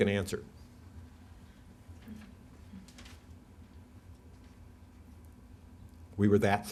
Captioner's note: silence